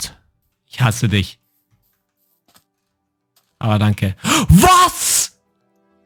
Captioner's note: speaking in foreign language